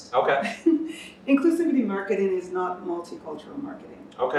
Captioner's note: chuckles